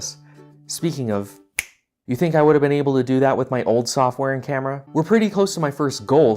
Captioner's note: snap